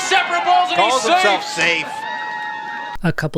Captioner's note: cheering from audience